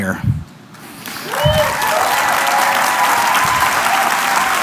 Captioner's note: cheering